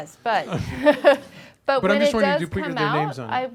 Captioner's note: laughing